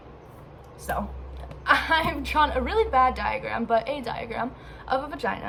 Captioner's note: laughing